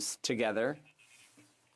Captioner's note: speaking French